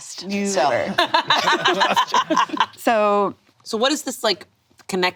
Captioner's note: all laughing